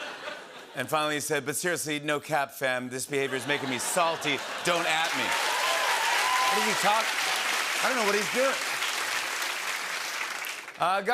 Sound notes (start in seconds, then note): 5.5 cheers and applause